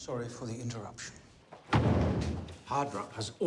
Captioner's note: door slams